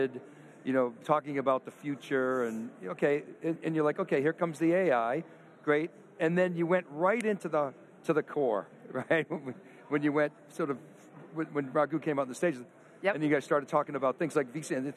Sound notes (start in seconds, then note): 8.8 chuckles